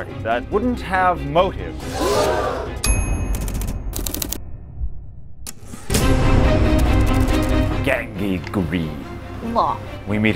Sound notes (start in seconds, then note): 2.1 gasps